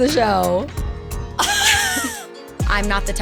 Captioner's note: laughing